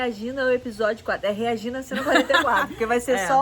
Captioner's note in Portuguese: laugh